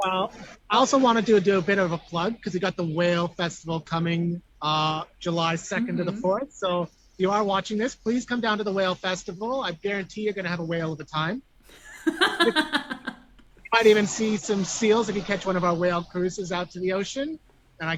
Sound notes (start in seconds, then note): 11.7 laughs